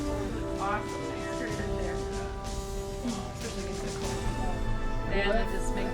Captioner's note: family chatting